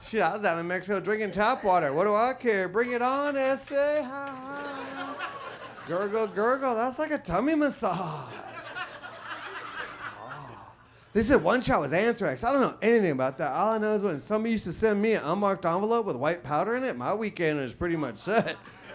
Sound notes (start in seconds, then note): 3.9 audience laughs